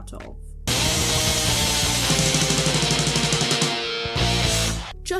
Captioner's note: shredding